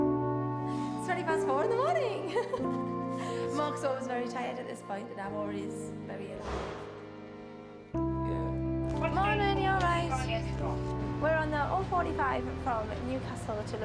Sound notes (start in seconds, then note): 1.7 laughs